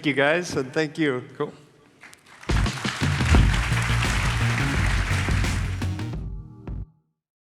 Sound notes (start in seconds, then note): 2.2 applause; 3.0 upbeat electronic music